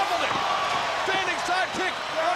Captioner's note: crowd cheering